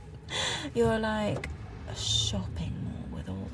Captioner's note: giggles